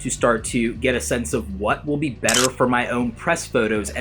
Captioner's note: camera clicking